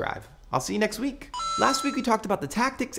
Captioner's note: video game chime